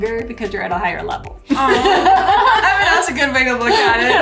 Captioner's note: laughs